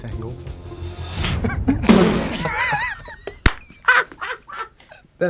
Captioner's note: both laugh